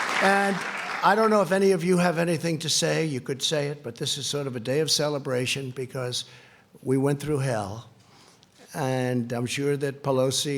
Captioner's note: applause